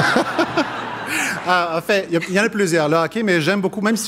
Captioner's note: laughter